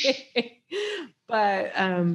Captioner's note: chuckles